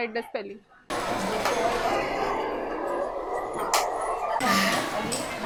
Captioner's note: classroom background noises